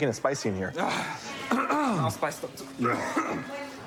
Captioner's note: coughs; clears throat